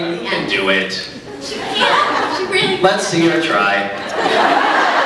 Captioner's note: laughs; scattered laughs